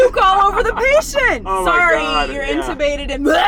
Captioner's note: laughs